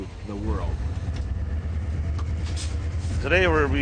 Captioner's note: train chugs and hums